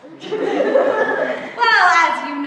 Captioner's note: laughter